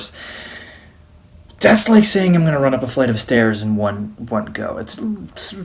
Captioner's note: inhales